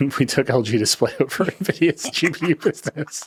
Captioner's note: laughing